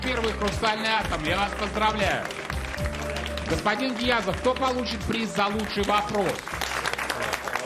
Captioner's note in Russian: аплодисменты